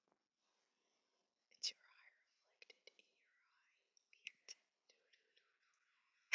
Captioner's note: whispering